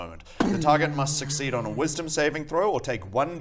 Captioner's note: boom